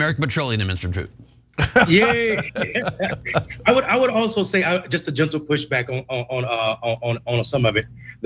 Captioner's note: laugh